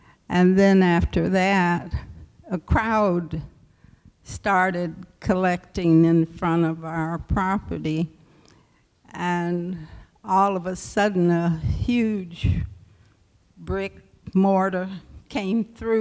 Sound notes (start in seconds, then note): none